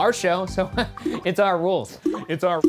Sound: laughing

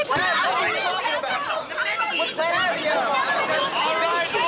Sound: arguing

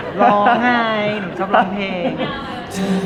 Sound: laughs

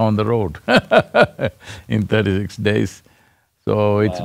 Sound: laughs

